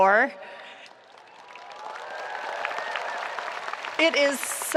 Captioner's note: spectators applauding